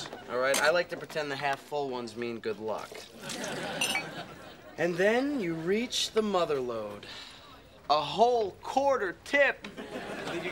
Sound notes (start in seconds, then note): 3.4 coffee pouring